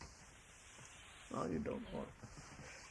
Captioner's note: laughs